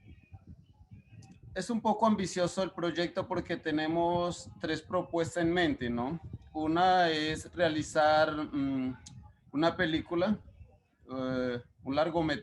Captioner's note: speaking Spanish